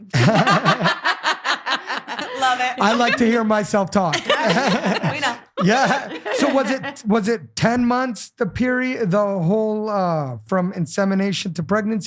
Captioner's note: laughing